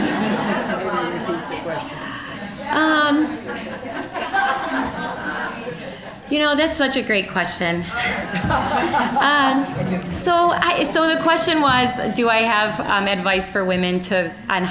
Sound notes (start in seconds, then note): 0.0 audience laughing; 2.9 general chatter; 7.8 all laughing